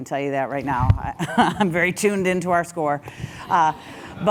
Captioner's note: laugh